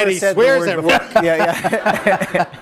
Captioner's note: laughter